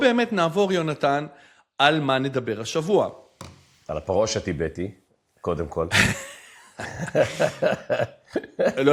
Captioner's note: laughter